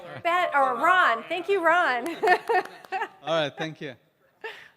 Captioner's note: applause